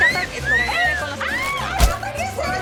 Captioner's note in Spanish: Silbido; Grito